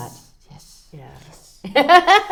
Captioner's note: laughter